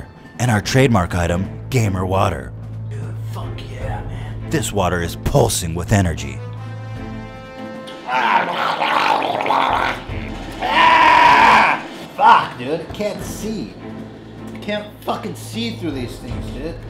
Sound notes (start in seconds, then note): 7.9 gurgles; 10.5 screams